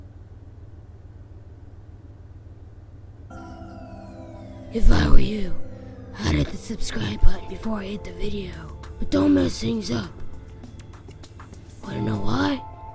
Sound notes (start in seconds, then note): 5.1 voiceover